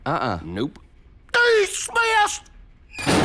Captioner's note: slams door